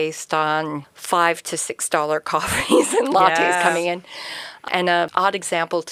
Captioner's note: laughs